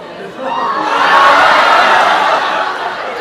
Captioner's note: screams of terror